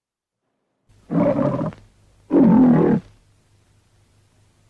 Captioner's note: lion roaring